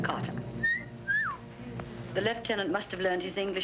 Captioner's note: whistles